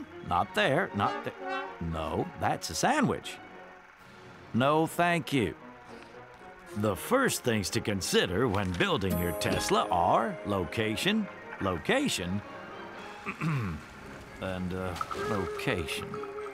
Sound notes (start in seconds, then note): 13.2 ahem